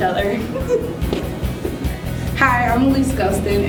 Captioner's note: laughter